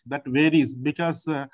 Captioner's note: translator and others talking